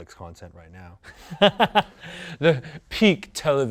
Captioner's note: laughs